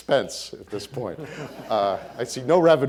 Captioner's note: audience laughing